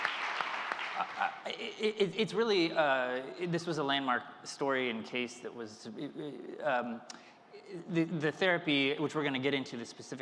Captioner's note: applause